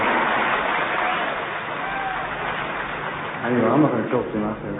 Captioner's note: audience cheers